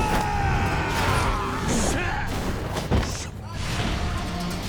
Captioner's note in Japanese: 叫び声; うめき声